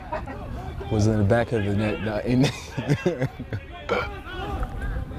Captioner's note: laughs